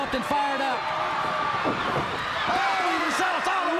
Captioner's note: crowd cheering